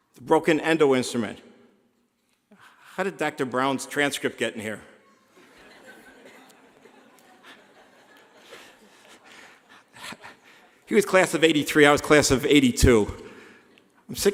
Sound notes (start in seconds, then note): 5.0 laughing